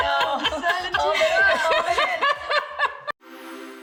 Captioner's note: laughing